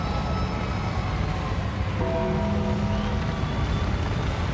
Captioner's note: ominous music continues; audience cheers